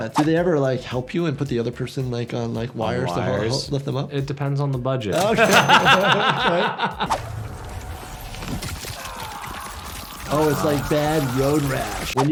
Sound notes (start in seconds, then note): 5.2 laughs; 8.7 bone crackles; 8.7 video game character grunts